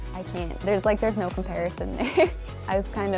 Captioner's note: chuckles